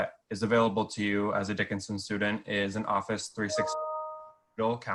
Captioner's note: computer blips